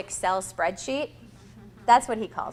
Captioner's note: audience laughs